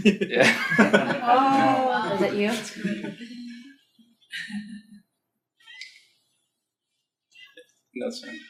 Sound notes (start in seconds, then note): 0.0 group laughing; 0.0 laughs